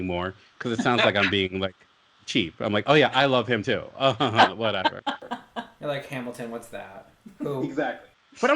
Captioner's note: laughs